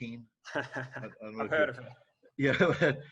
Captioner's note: laughing